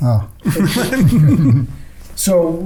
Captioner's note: laughing